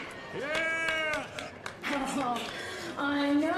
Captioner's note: Ridacchia